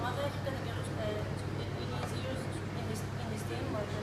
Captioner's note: non-english speech